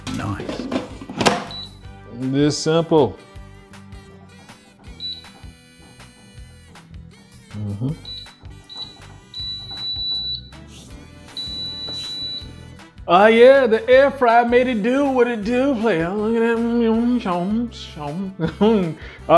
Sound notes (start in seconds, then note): 6.4 bright music; 9.6 air fryer beeping; 17.4 speaking gibberish